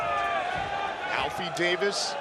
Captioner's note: crowd shouting